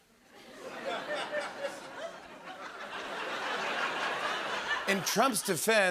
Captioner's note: laughter